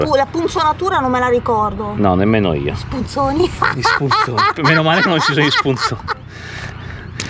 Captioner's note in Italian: risate